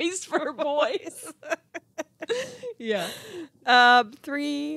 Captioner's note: laughing